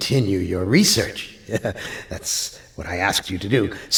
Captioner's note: laughs